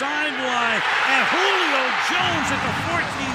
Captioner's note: cheering